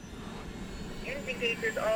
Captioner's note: blades whirring; engine roaring